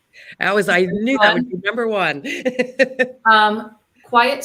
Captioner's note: laughter